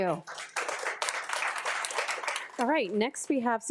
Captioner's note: attendees applauding